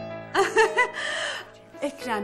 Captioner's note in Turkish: gülme sesi̇